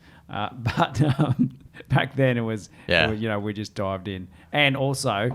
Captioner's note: laughs